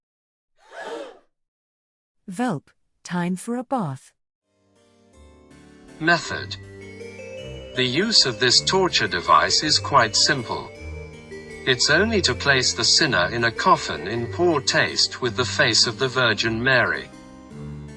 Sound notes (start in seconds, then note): 0.6 gasping